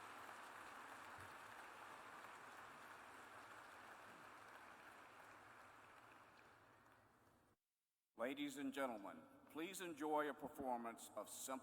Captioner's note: applause